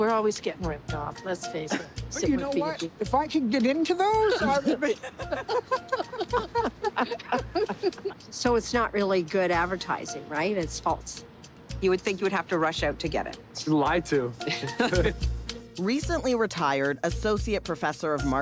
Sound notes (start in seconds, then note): 4.2 all laughing; 14.4 both laugh